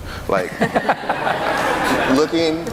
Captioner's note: audience laughing